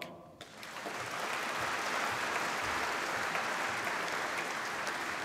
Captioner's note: applause